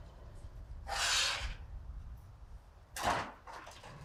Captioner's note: metal scraping